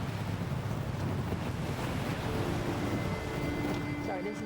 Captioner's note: waves crashing